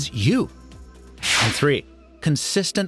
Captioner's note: air whooshing